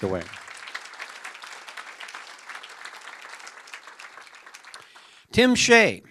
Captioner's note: applause